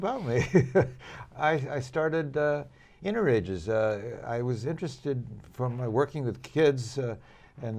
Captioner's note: laughter